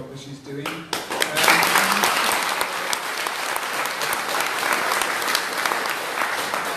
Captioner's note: applause